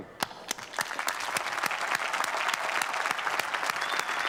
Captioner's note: applause